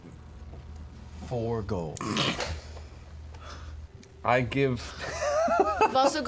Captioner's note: snorts